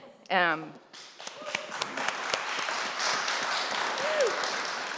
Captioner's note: applause